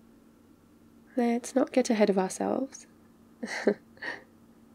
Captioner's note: laughs